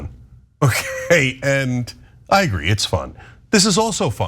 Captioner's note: laugh